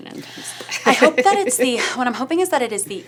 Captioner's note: laughs